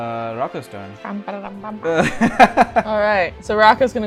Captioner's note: laughter